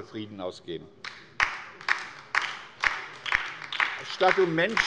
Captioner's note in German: Beifall bei der LINKEN